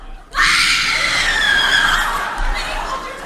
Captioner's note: Minnie screams